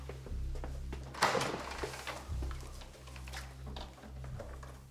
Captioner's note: door clattering